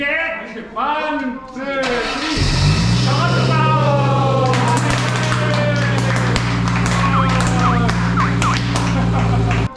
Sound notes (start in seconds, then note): 2.0 soon engine sound; 4.3 applause